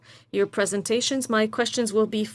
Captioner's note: speaking French